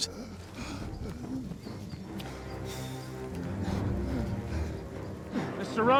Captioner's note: bartram gasping